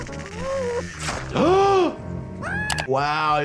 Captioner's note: gasps